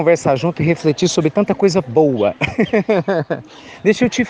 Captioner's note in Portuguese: risos